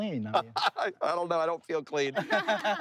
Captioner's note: laughs; family laughing